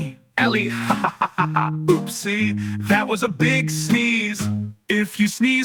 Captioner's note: laughing